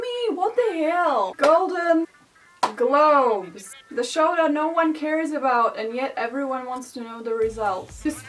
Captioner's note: clap